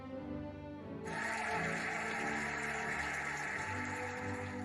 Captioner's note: cheering and applauding